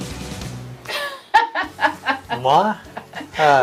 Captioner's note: laughs